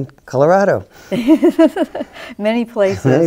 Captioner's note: chuckles